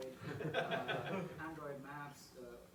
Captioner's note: laughter; voiceover